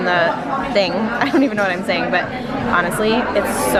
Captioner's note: laughs